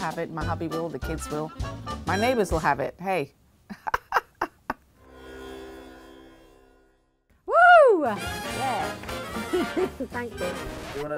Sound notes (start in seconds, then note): 3.6 laughter; 5.0 music buzzes